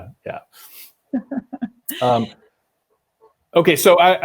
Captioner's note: laughs